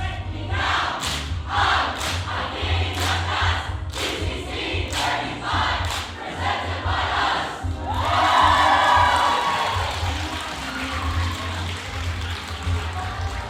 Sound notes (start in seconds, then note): 7.8 cheering